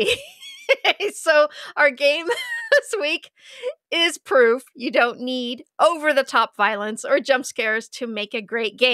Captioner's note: laughs